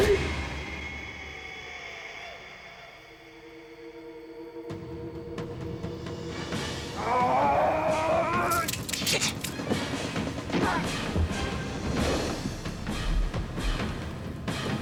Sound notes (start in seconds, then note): 0.1 dramatic music; 6.9 man grunts; 8.9 dramatic music